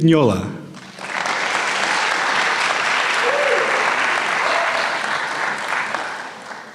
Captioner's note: applause